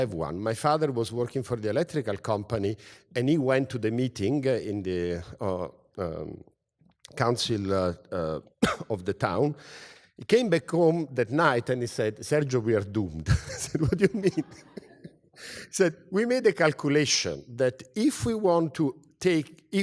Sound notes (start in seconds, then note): 8.6 cough; 13.4 laugh